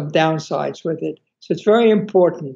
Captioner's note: none